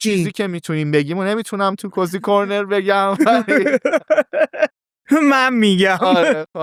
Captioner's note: laughs